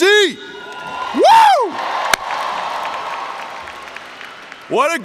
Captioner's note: cheering